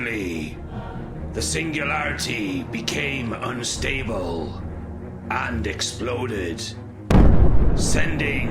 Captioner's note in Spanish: explosión